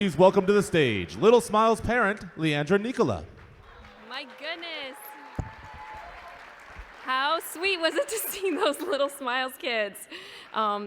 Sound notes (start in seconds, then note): 6.0 cheers